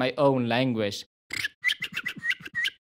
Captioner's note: bird calls